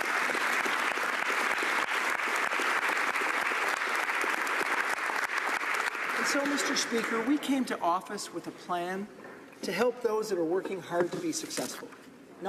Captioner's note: applause